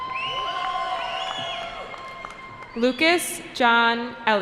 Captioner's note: cheering